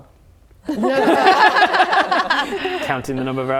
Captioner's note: laughing